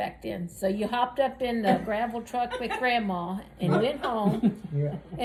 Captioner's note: laughs